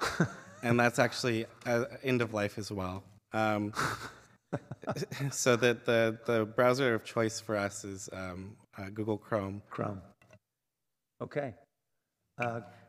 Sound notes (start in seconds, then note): 4.4 laughter